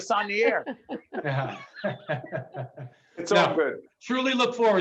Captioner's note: laughing